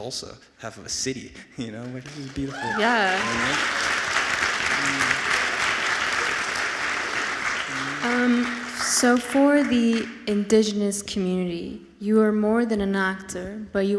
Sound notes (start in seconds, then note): 4.6 audience applauds